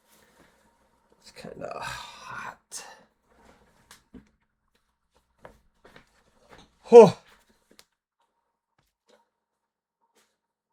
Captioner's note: sighs